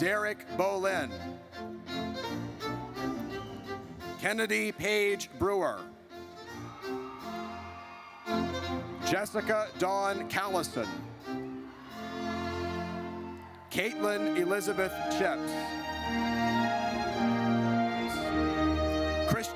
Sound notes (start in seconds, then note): 1.6 triumphant music; 6.5 audience cheers; 11.6 audience cheers; 16.2 triumphant music